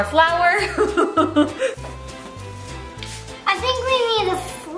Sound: laughs

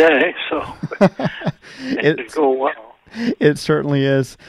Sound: laughs

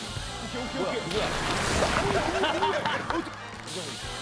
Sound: splash

